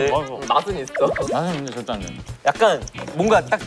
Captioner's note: مضغ